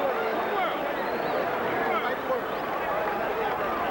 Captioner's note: applause and cheers